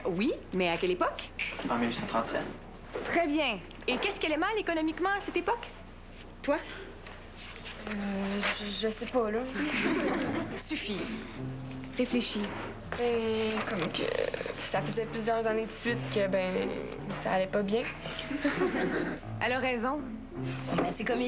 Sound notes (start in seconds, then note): 9.6 Rires; 18.2 Rires